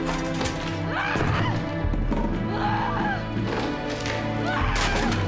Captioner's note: objects clattering; Jill screaming